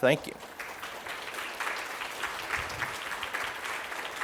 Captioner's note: audience applauding